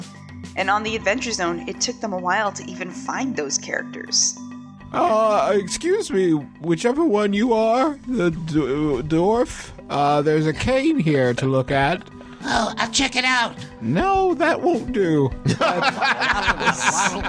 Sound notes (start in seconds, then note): 8.2 stammers; 11.3 doing a weird voice; 15.4 laughter